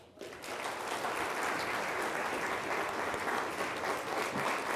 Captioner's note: people applauding